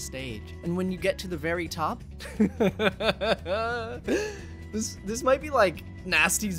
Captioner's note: laughs in Canadian